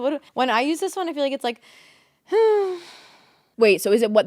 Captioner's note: sighs